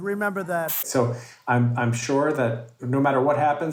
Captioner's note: static hisses